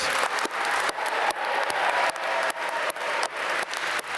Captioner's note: applause